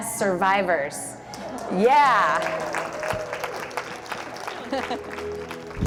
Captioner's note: applause